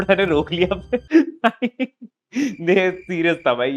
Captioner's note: laughing